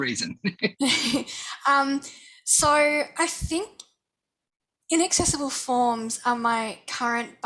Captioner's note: laughter